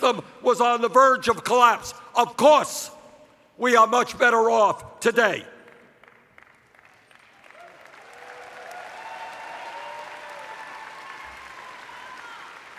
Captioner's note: cheers